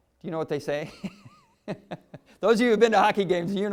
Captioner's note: laughter